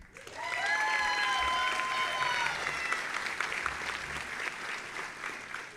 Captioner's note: audience applauding and cheering